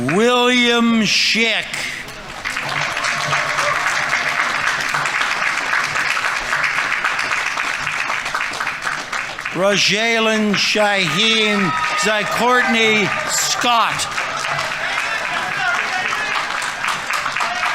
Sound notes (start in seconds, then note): 2.4 audience applauding; 14.5 audience applauding; 14.5 audience members cheering